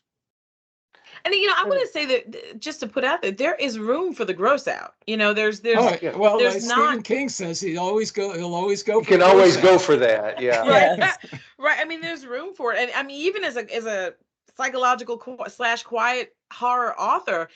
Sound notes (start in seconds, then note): 11.4 laughing